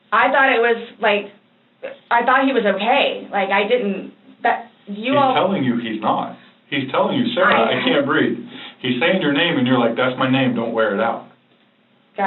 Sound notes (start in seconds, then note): 4.1 stammers